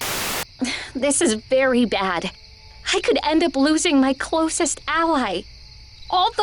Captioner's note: sighs